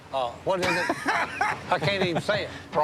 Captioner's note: laughter